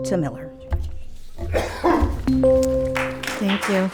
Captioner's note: machine beeps